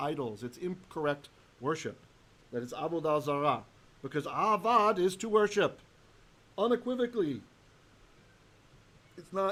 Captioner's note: Hebrew